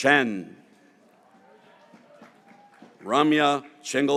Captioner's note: graduates cheering